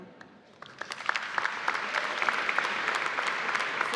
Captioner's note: applause